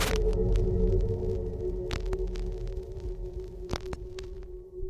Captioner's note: crackling static